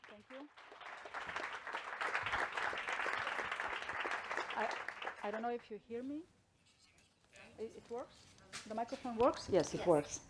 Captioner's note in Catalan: Aplaudiment